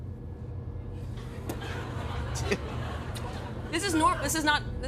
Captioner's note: laughter